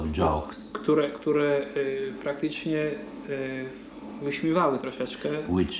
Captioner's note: speaking Polish